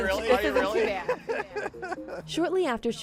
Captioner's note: laughing